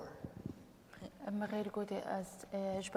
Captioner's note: speaking kurdish